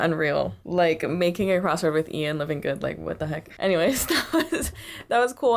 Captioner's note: laughter